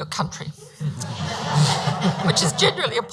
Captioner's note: audience laughs